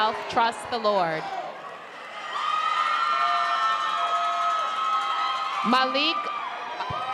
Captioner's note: crowd cheering